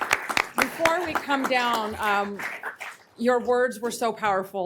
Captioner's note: applause